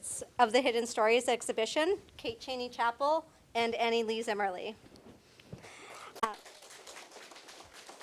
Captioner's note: applause